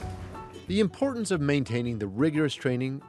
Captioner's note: voiceover